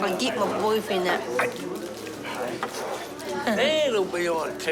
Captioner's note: gasps